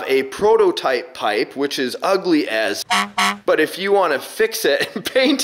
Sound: horn honks

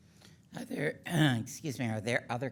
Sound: clears throat

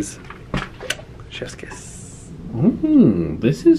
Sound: imitates kiss

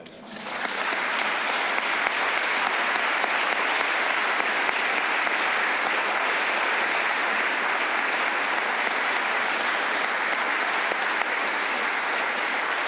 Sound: applause

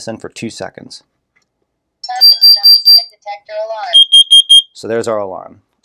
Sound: beeping

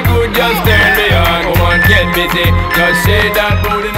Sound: timer beeping

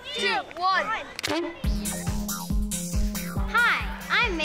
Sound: popping noise

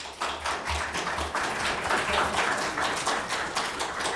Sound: audience applauding

